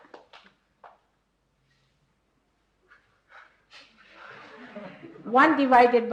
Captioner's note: laughter and applause